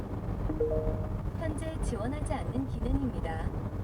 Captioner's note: digital sound: Requested feature not supported